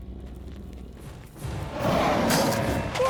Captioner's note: crocodile roaring